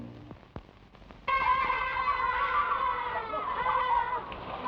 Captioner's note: boys shout